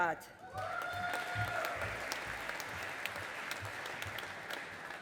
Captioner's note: audience applauding